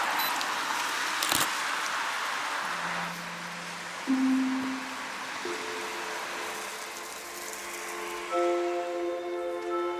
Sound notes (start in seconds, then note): 1.2 camera clicks